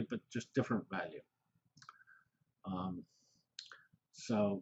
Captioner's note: pause